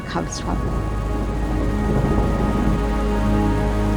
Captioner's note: desert evening sound, thunder, rain